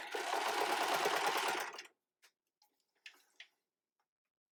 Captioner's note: sewing machine tapping